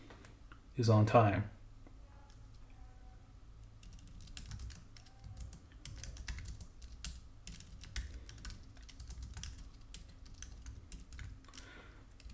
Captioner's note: typing